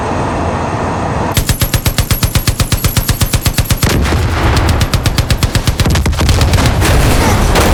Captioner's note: gunfire